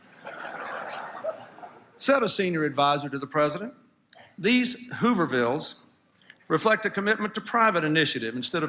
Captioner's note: laughter